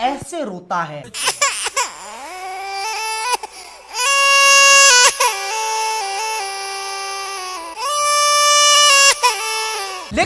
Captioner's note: autotune cringeworthy crying